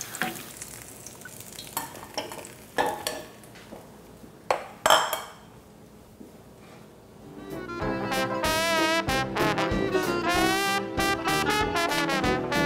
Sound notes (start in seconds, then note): 1.8 clanking; 7.2 upbeat jazz music